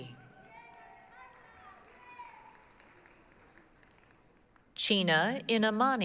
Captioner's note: applause, cheering